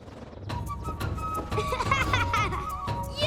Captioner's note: laughing